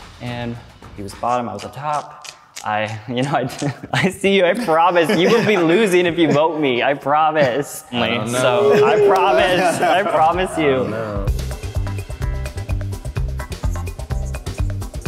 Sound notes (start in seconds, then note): 2.1 tutting; 7.8 doubtful muttering; 11.7 upbeat synth music